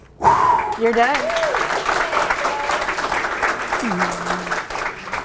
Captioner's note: audience applauds